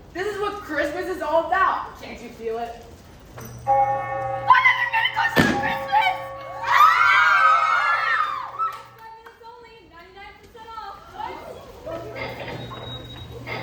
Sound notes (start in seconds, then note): 3.4 bell Ringing; 6.4 shoppers cheer; 9.9 shoppers clambering; 12.5 cash register chiming